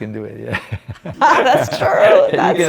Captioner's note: laughs; laughing